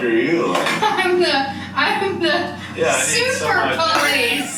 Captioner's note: laughing